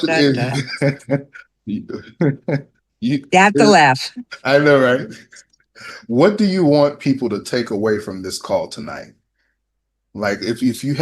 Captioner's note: laughter